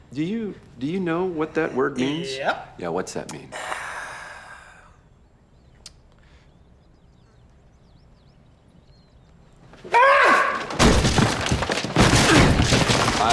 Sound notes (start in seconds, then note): 3.5 charlie sighs; 9.9 screams; 10.6 crash